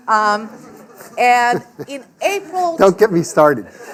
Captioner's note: laughing